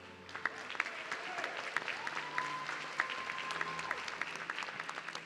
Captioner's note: audience cheering